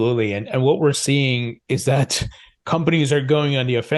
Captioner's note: laughs